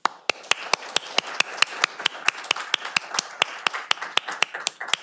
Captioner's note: audience applauding